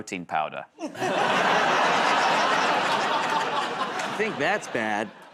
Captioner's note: laughter